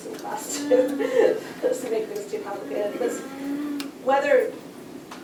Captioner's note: laughs